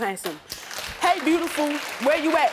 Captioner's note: audience applauding